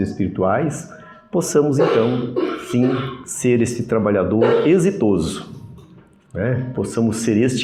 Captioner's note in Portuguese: limpando a garganta